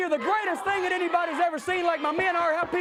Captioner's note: crowd cheering